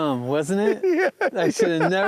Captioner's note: laughs